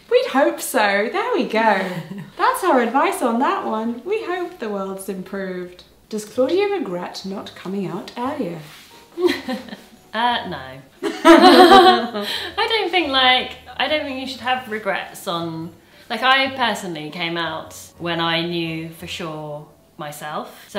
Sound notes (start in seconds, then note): 11.0 both laughing; 11.1 laughs